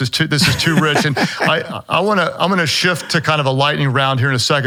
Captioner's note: laughing